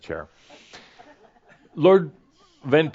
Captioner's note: a few chuckles